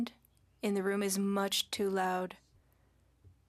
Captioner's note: speaking French